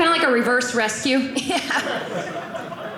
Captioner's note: audience laughing